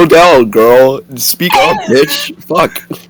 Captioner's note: cryin in the background